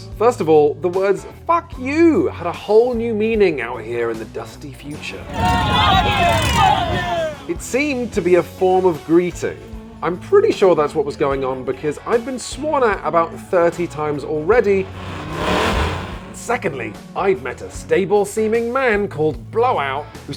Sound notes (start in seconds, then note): 6.1 participants screaming fuck you